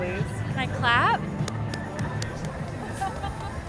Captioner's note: claps